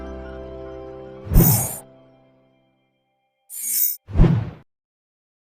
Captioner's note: wind whooshing